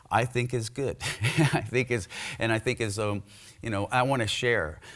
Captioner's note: laughs